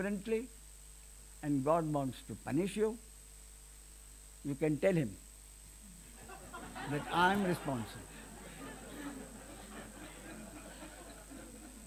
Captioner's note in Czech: smích